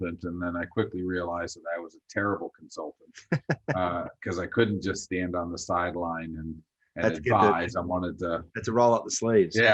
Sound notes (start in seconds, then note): 3.2 laughs; 9.4 chuckles